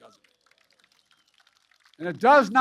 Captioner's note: applause